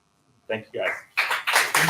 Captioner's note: applause